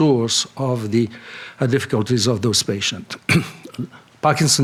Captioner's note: coughs